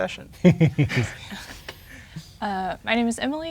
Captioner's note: chuckling